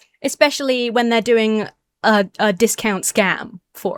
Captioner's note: none